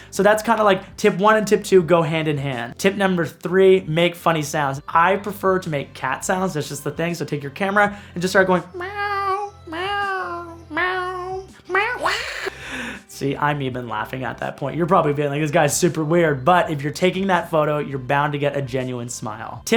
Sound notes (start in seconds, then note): 11.5 laughs; 12.0 cat hiss